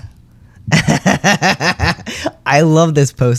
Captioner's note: laughter